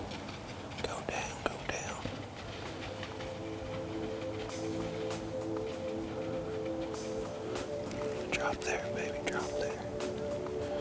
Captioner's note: whispering